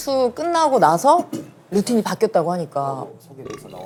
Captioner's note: cough; burp